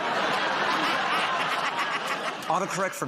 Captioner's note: laughter